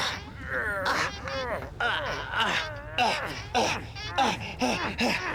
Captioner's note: grunting; <i> GROANING</i>; panting